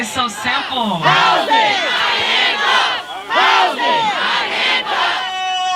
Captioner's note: crowd chanting: Housing, not handcuffs!